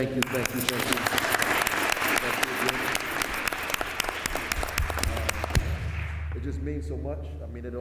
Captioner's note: applause